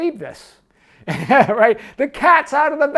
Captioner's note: laughing